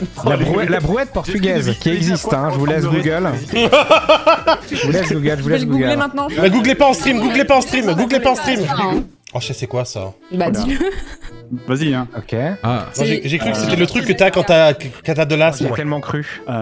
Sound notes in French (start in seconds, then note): 0.0 rire; 3.5 éclate de rire; 10.6 petit rire